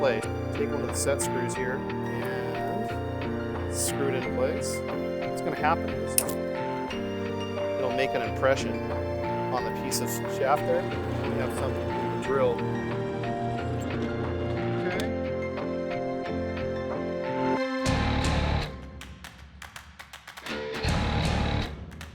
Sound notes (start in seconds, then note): 6.1 piece snaps; 13.2 drill motor spinning